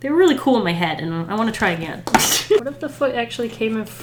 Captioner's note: laughs